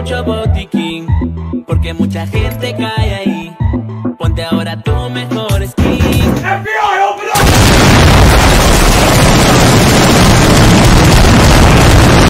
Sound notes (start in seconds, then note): 7.4 shooting